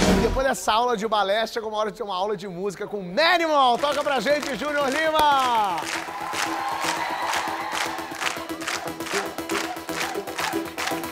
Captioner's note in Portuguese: aplausos